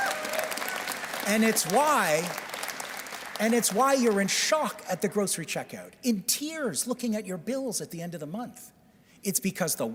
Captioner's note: applause